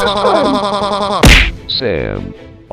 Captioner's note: Sam screaming